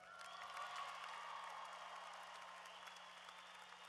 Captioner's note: applause